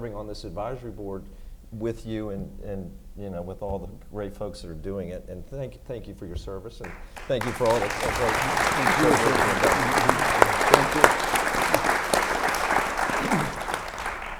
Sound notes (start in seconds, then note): 6.8 everyone claps